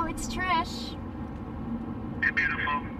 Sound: wind blowing

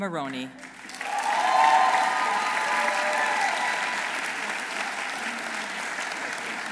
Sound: audience applauding; audience cheering

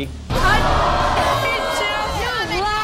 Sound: audience gasps

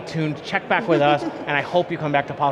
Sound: laughing

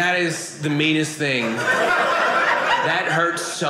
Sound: audience laughing

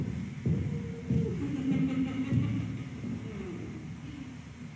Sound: awkward laughter

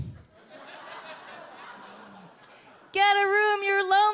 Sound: audience laughs

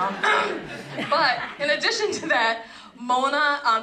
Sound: laugh

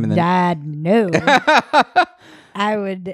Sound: laughs loudly

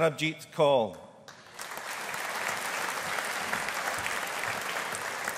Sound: audience applauding

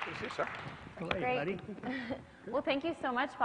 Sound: laugh

